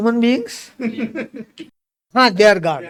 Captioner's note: laughs